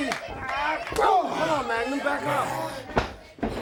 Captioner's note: crowd chatter